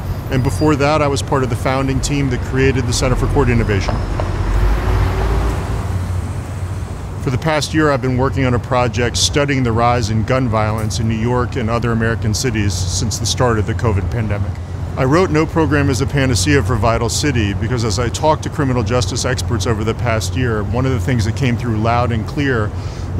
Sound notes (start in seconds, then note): 4.9 sound of a passing city bus passing